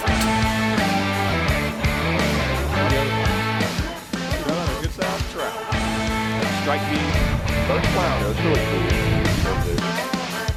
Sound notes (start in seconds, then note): 0.0 footsteps pattering; 0.3 upbeat metal music; 2.2 faintly speaking